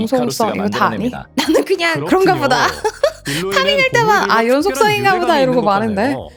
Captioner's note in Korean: 웃음